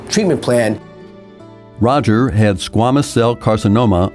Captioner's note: voiceover